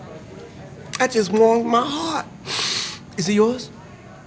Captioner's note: sniffs